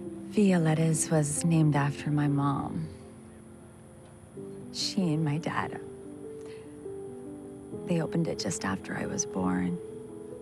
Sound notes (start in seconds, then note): none